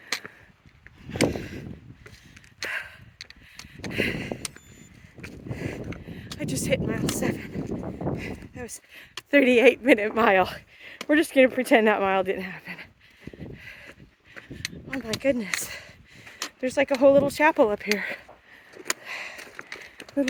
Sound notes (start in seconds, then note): 0.8 labored breathing; 4.5 Garmin watch beeps